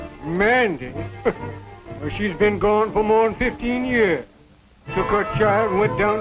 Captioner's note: chuckles